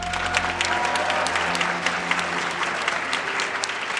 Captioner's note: crowd applauds